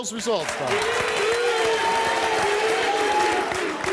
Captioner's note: cheering